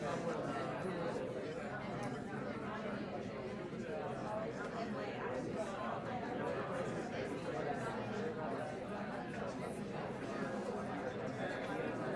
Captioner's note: chatter